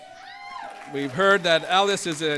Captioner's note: applause